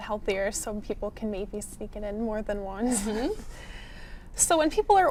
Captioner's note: laughs